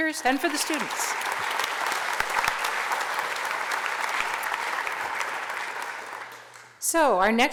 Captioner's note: applause